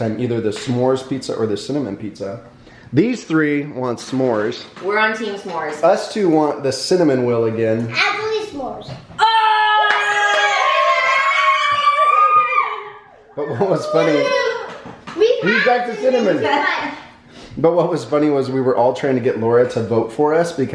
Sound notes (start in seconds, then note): 9.2 cheering